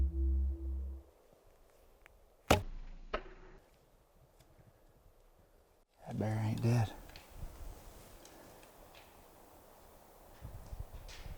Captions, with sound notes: (bow string snaps) That bear ain't dead. (nature sounds)